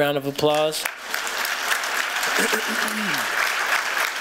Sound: applause

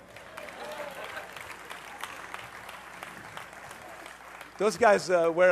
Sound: applause

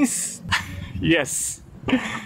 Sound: laugh

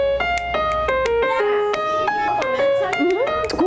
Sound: none

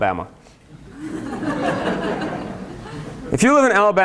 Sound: laughter

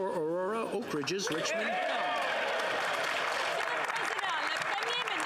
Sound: some Applause; speaking French; some Applause

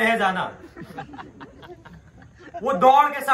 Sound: laughing

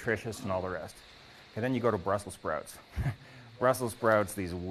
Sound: chuckles

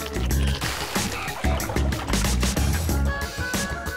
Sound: swishing

